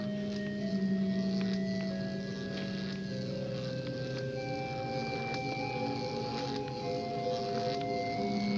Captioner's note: electric buzzing